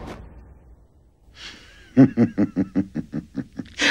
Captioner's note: laughing